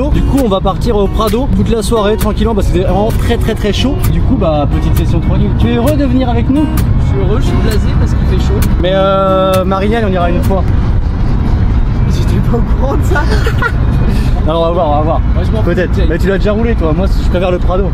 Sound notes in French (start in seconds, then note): 13.1 Rires